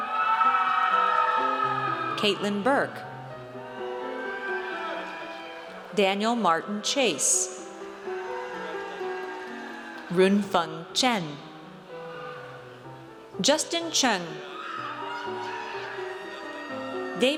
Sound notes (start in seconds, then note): 0.0 audience cheers; 7.6 audience cheers; 14.4 audience cheers